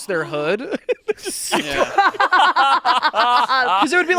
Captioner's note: everyone laughing